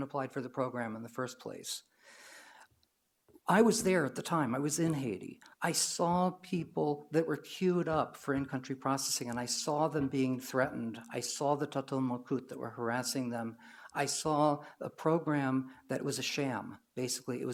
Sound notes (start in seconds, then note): 11.6 foreign language